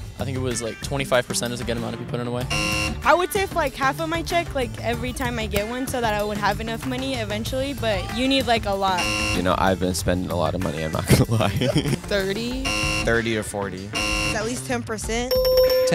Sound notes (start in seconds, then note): 2.5 buzzer; 9.0 buzzer; 12.6 buzzer; 15.2 ding, Ding, Ding